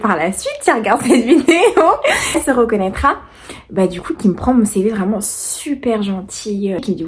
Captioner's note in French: rires